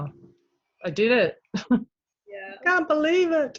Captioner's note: chuckles